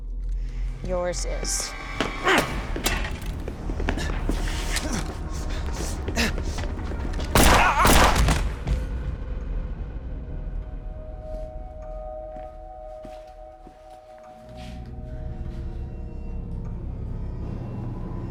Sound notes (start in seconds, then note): 2.2 Dev grunts; 7.3 gun fires; 7.4 Dev groans; 9.9 slow ominous music